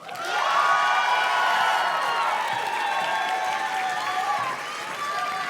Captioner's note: audience cheers and claps